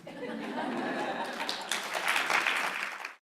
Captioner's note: applause